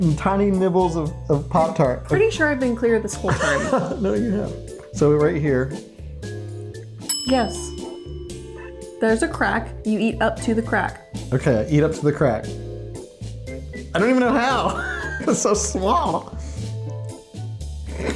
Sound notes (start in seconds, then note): 14.6 laughing